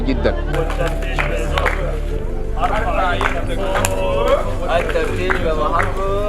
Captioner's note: chanting at check point